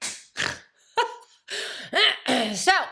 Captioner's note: Jan laughs; Jan snorts